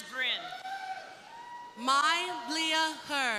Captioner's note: crowd cheering